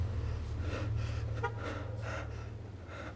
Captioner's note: car honk